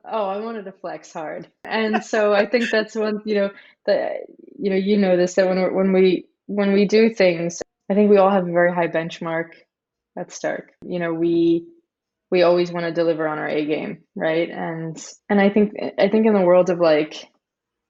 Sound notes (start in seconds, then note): 2.3 laughing